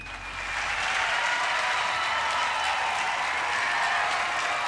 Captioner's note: audience cheering